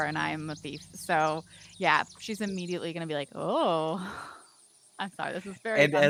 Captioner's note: chuckles